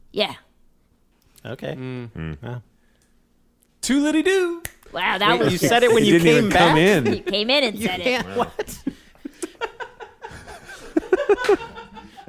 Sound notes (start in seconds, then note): 4.6 snaps fingers; 10.6 all laugh